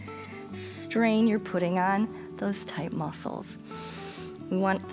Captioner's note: inhales